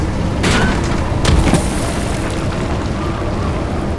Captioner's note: desert noises; thud